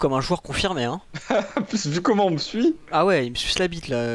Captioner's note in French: rire